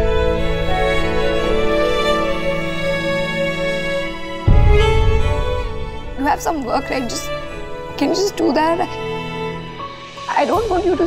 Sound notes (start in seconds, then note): none